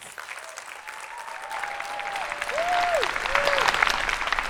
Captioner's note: attendees applauding